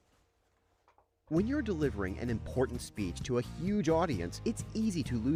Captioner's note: voice-over